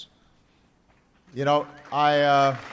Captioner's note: applause